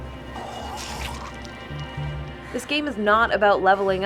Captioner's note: coughing and choking sound effect